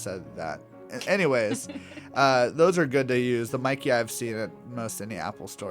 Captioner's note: laugh